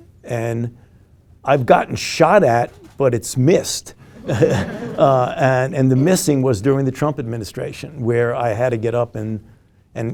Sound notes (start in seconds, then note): 4.1 group laughing